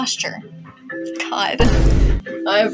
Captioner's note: Vine Boom